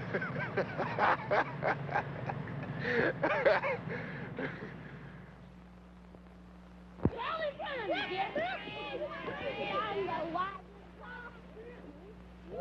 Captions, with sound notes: (Roy laughing) - You always crying; get up! (children screaming) - Sometimes I watch- - Yeah, yeah.